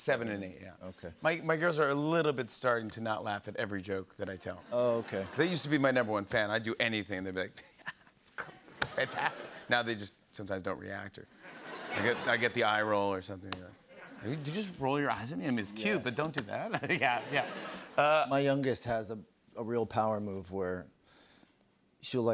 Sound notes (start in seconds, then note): 8.3 laughs